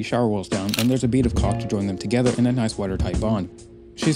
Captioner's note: camera shutter